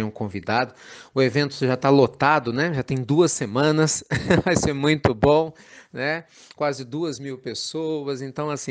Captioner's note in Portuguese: Risos